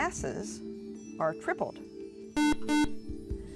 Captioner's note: buzzer